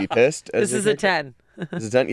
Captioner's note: laughs